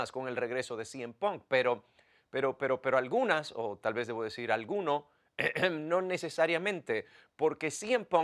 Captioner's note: cough